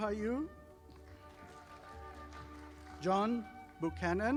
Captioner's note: audience applauding